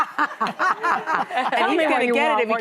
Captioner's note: laughing